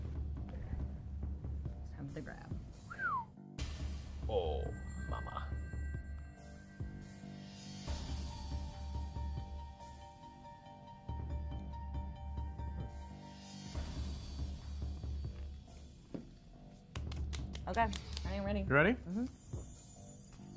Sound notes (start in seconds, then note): 2.8 whistles; 4.5 chime